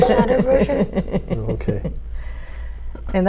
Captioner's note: laughs